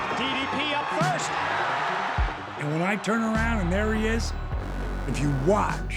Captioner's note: applause